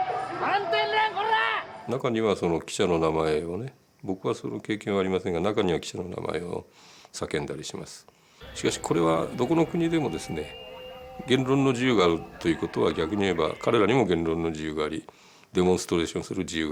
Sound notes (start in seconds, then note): 0.3 bystander shouting in Japanese; 2.5 speaking in Japanese